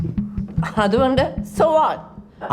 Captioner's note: speaking foreign language